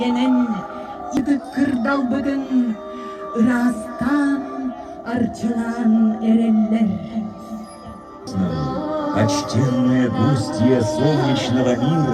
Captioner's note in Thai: เสียงหัวเราะ